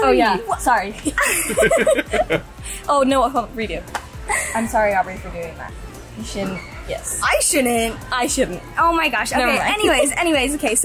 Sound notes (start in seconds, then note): 1.0 laugh